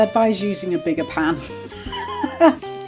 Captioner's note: laughs